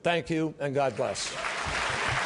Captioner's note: applause